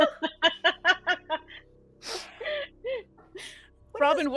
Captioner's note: laughing